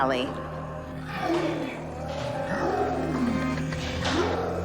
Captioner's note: revenants growling